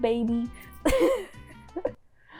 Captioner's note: giggling wheeze